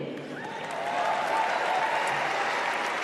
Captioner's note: applause